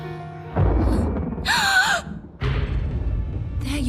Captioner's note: startled gasp